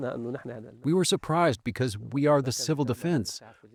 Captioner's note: through translator